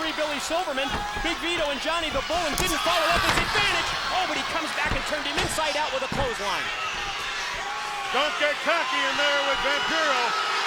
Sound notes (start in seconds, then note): 7.6 crowd boos